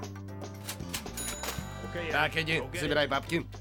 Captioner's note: dings